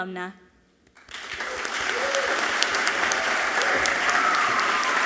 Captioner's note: audience clapping loudly